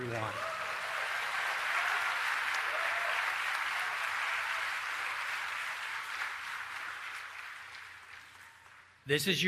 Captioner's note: applause